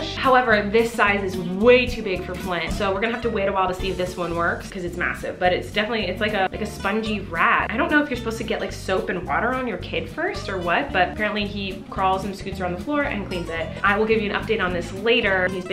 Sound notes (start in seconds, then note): none